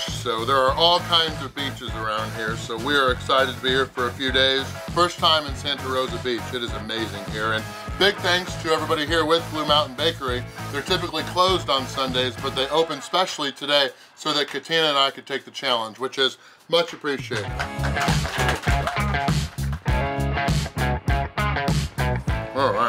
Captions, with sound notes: So there are all kinds of beaches around here. So we are excited to be here for a few days. First time in Santa Rosa Beach. It is amazing here. And big thanks to everybody here with Blue Mountain Bakery. They're typically closed on Sundays, but they opened specially today, so that Katina and I could take the challenge, which is much appreciated. (crowd applauds, cheers) (funky rock music)